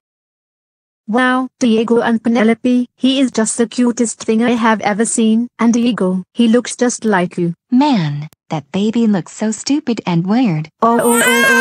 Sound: speaking and crying

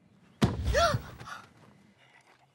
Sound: gasps

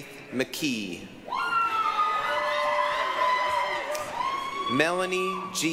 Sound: applause, cheering

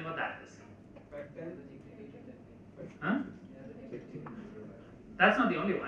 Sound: murmur in the crowd

